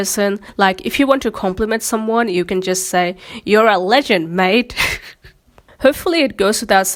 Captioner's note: laughs